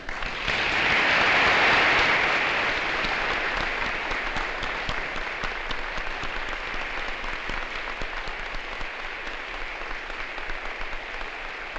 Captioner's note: applause